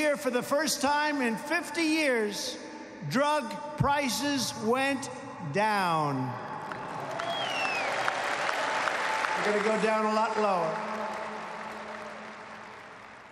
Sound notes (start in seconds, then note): 6.6 applause